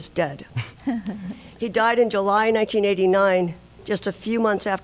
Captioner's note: laughter